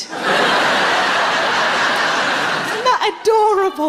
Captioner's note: laughing